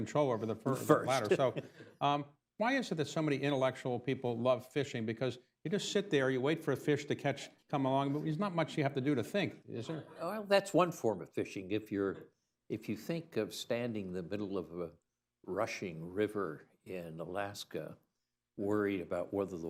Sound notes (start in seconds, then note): 0.8 laughs; 9.9 laughter